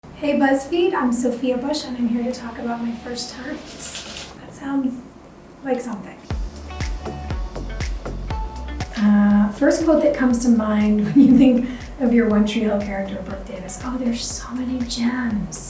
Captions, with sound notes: - Hey, BuzzFeed, I'm Sophia Bush, and I'm here to talk about my first times. (paper rustles) That sounds like something. (lighthearted electronic music) First quote that comes to mind when you think of your "One Tree Hill" character Brooke Davis. Oh, there's so many gems.